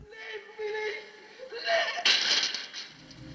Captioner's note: hanged man screams